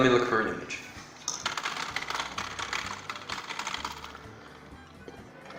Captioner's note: cybernetic keyboard typing